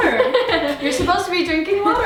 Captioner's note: laughs